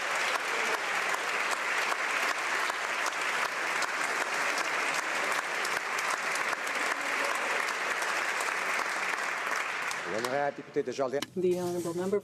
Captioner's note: some Applause